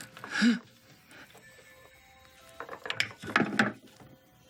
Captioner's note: Roger grunts; objects rattling on desk